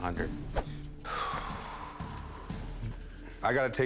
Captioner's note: exhale